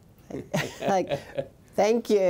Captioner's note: laughs